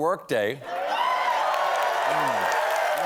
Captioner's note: cheers and applause